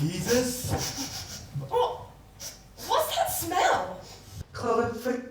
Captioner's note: sniff